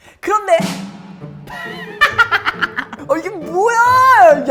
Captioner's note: laughing